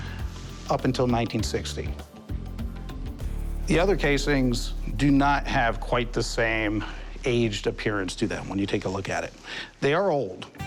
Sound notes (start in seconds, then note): none